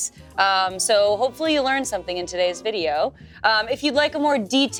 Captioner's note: none